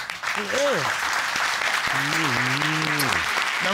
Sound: audience applauding

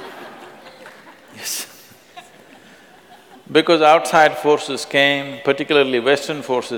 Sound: laughter; laughs

